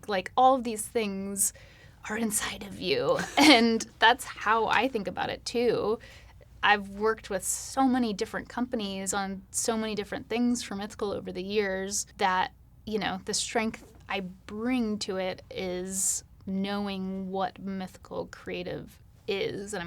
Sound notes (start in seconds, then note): 3.2 laughing